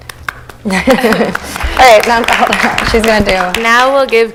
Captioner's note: applause